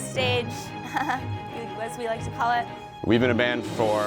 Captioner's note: chuckling nervously